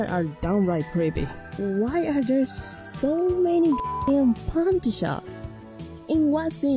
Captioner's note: beep